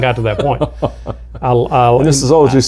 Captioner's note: laughing